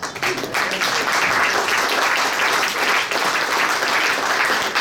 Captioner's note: audience applauds